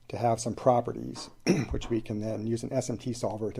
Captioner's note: clears throat